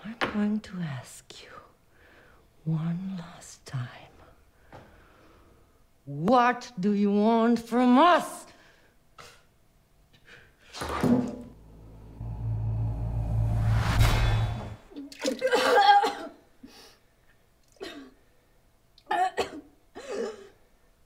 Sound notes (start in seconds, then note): 11.6 tense instrumental music; 14.0 metallic ting; 15.9 gagging